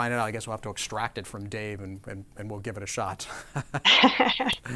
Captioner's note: laughs